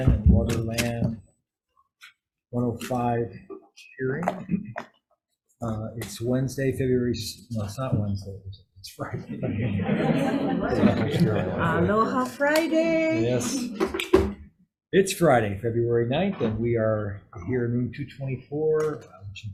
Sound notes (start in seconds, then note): 9.2 group laughing